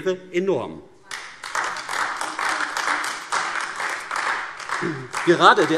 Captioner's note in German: Beifall AfD